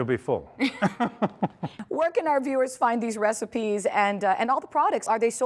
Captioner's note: laughing